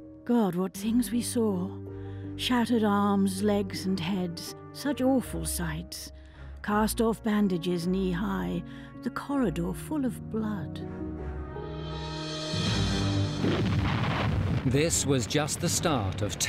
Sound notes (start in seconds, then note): 11.1 dramatic music; 13.4 gunfire blasting